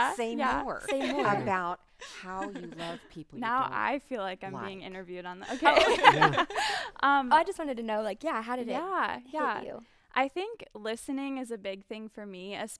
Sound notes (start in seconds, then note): 5.4 group laughing